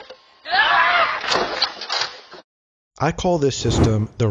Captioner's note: screams